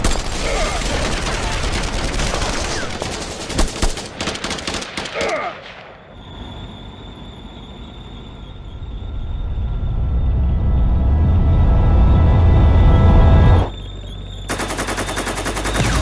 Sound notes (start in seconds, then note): 0.3 trooper groans; 5.2 trooper groans; 6.0 tank whirring; 6.2 tank rumbling; 14.4 tank gun blasting; 15.8 explosions booming